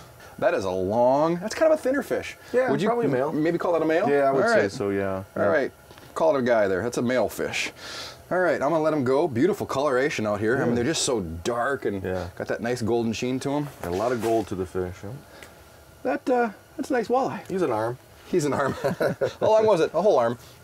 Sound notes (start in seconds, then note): 18.5 laughing